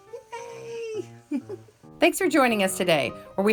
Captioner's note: laughs